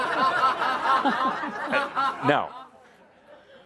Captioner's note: laughter